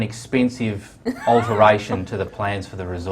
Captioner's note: laughter